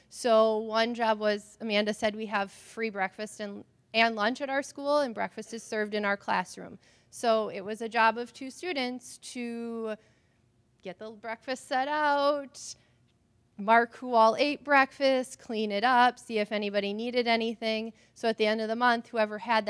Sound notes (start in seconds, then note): none